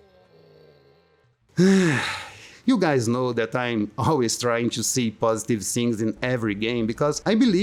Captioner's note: sigh